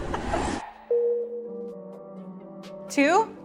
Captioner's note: laughs; whooshing sound; downbeat music